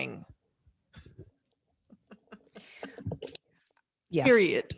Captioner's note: laughing